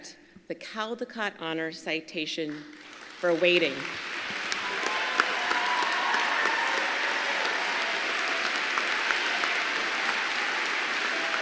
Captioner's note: applause